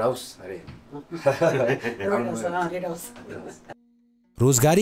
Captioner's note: laughter